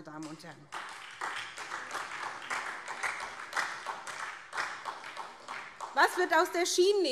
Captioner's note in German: Beifall SPD